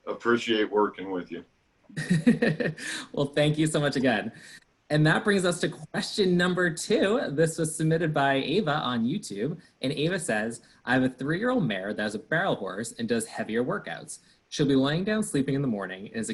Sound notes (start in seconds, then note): 1.9 laughs